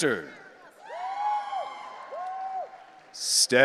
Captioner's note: audience cheering